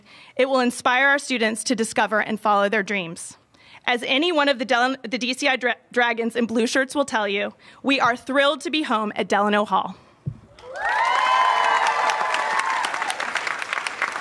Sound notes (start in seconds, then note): 10.6 applause